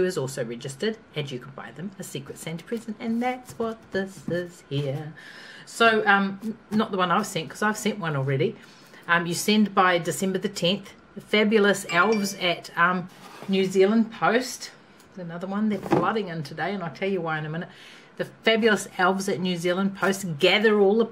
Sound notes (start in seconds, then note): 11.8 text message chime